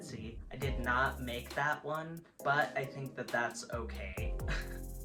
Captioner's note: laughs